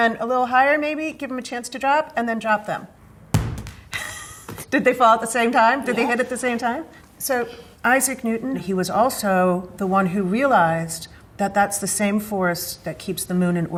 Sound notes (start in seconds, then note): 3.2 balls thud; 3.9 laughs